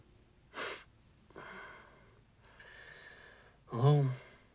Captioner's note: sniffles